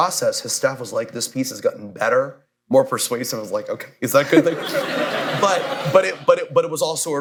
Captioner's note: laughter